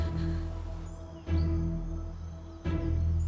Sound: birds chirping

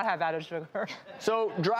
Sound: audience laughing

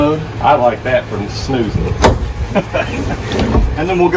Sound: laughs

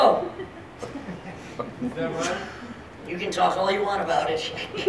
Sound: laughing

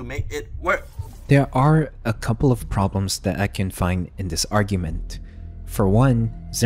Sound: glitch sound effects

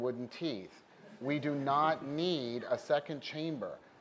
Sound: laughter

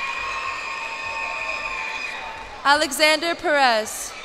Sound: cheers and applause

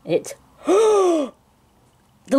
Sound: gasps

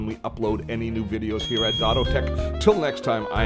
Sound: bell dings

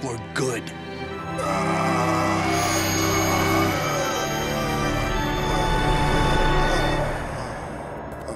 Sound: groaning

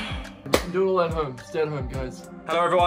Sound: hand claps

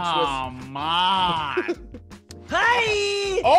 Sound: laugh

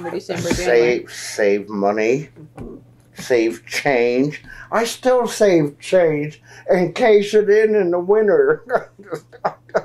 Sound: laughs

